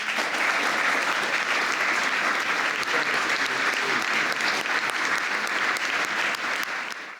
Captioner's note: applause